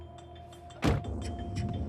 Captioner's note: tense music; door slams